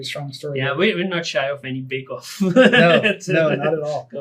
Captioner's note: laughs